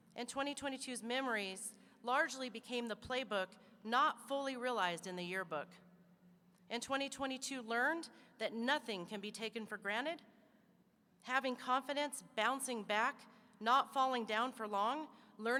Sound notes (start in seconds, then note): none